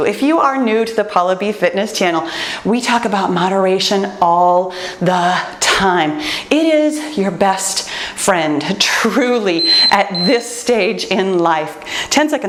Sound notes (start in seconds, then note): 9.6 timer beeps